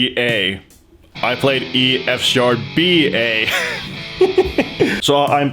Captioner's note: laughs